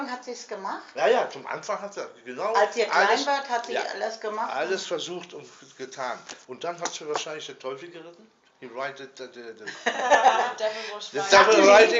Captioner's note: speaking in German